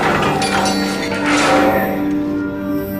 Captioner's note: sighs